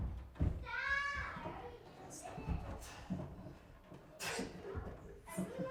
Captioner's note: kids yelling and chattering